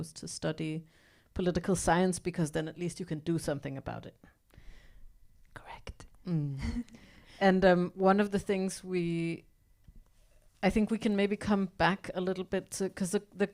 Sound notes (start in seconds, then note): 5.5 whispers